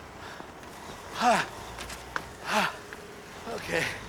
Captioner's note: panting